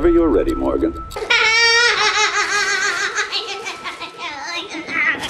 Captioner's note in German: irres Gelächter